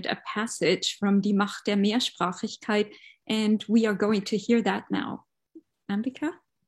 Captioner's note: speaking german